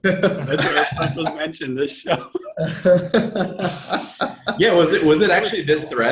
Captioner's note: laughs